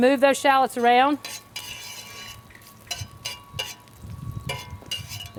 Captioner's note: tongs scraping